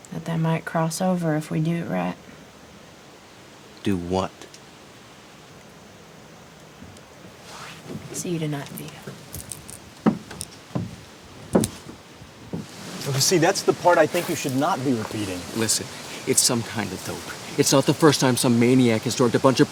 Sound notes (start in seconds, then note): 10.1 footsteps thumping